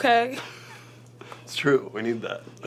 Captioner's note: laughs